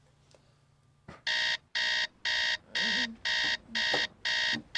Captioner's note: alarm buzzing